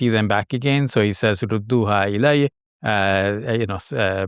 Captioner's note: speaking in foreign language